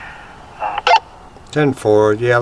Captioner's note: radio beeping